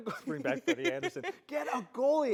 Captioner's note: laughs